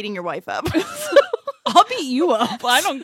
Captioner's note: laughs